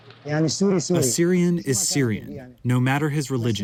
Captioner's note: through translator